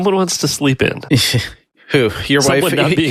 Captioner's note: sighs